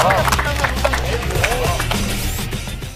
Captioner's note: clapping like a seal